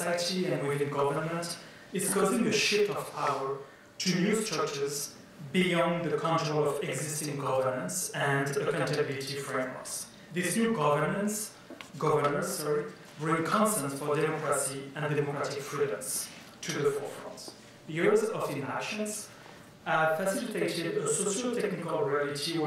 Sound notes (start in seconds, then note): none